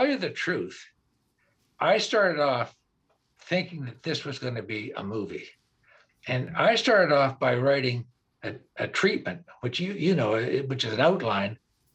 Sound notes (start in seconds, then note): none